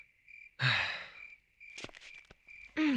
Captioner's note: sighs